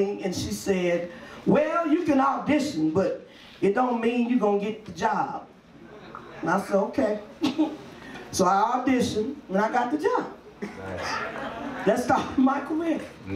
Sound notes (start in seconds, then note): 7.6 laughs